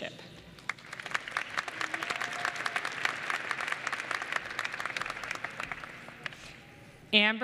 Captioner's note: applause